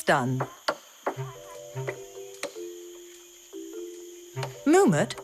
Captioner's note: coconut hitting wood